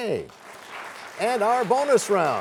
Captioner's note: applause